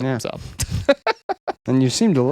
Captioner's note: laughing